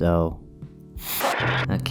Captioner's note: static